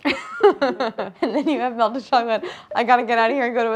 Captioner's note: laughs